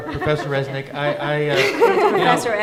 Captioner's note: laughing